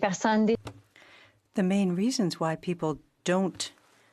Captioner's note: speaking French